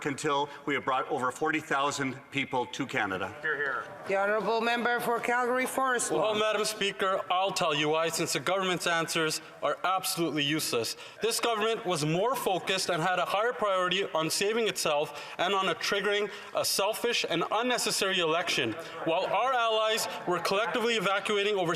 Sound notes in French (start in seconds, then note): 12.3 voix de l'interprète